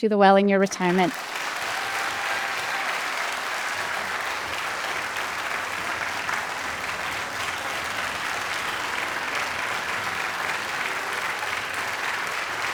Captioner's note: applause